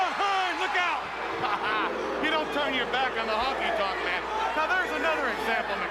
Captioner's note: laugh